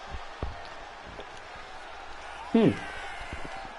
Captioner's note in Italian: Applauso